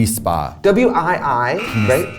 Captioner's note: alarm buzzes